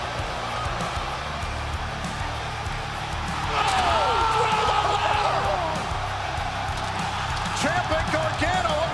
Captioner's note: crowd cheering